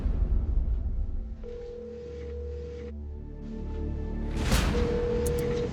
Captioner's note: line ringing